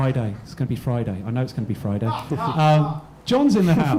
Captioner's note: man laughs